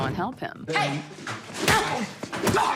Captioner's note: guard grunting